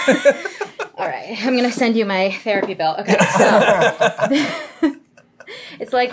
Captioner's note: laughter